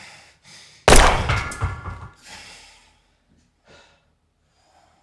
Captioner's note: gunshot booming